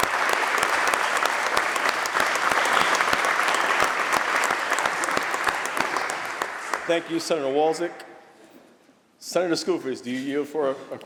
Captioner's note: applause